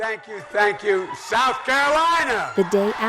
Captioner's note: cheering and applause